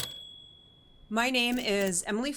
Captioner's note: typewriter clacking